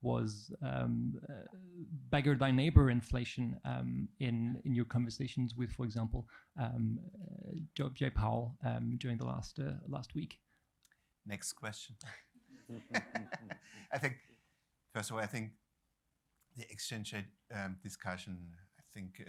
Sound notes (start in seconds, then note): 12.7 laughter